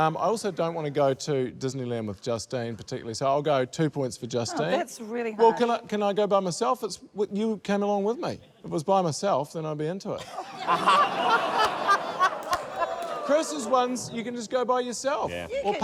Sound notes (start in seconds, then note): 10.2 laughter